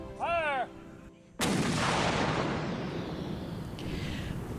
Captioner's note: sound of canon fire